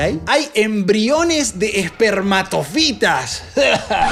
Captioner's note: gag